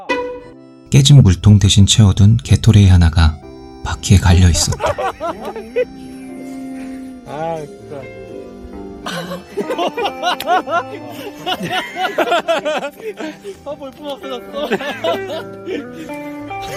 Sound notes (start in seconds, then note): 7.4 laughs